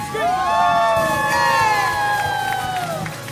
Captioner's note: cheering